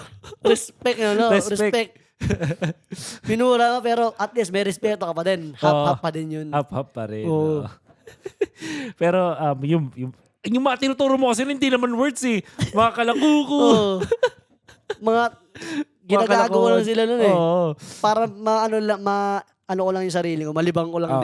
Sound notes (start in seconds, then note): 12.6 laughs